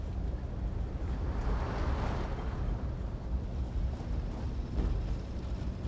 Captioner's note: traffic commotion